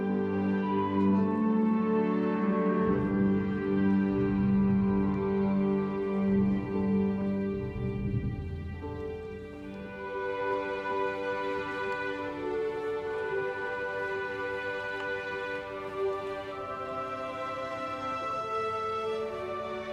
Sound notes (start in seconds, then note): 7.6 speaking french